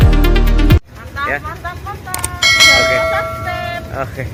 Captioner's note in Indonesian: lonceng